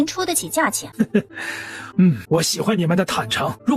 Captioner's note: chuckles thoughtfully